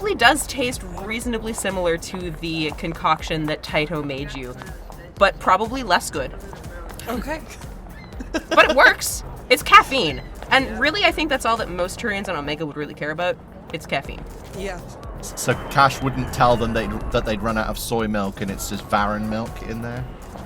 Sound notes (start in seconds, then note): 6.7 chuckles